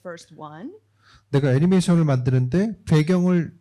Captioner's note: speaking korean